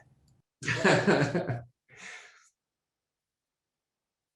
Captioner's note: laughter